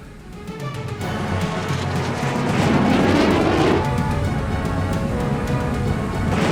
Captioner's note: tense music; aircraft whirring